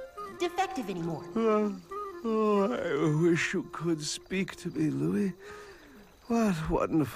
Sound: yawns

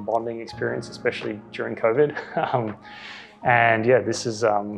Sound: laughs

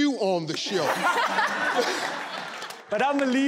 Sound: laughing

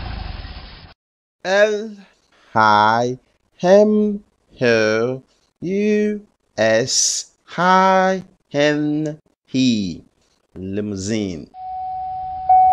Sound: Limousine Sound

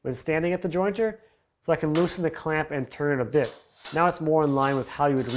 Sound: clamp snapping

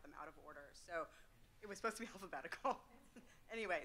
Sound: chuckles

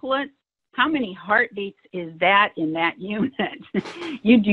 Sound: laughs

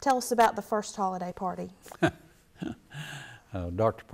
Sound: laughs

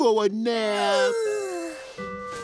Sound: yawning

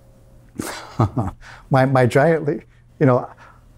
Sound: laughs

